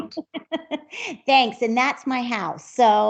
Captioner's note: laughs